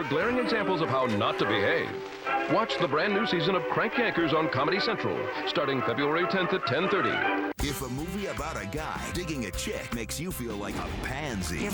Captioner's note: screaming